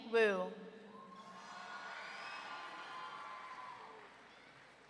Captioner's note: audience cheering